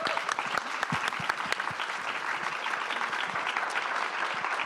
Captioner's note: audience applause